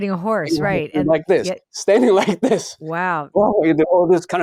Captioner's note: laughs